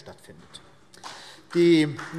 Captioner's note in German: Vereinzelter Beifall BÜNDNIS 90/DIE GRÜNEN